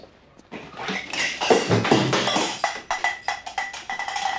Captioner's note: cup thuds